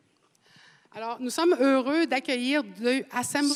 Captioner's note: speaking French